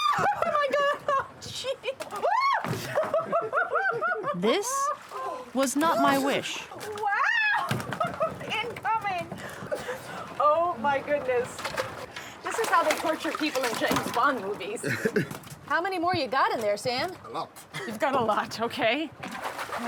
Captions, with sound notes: Whoa! Oh, my God! Oh, gee-- Whoa! [ Laughing ] This...was not my wish. Wow! [ Laughs ] Incoming. Oh, my goodness. This is how they torture people in James Bond movies. How many more you got in there, Sam? -A lot. -You've got a lot. Okay.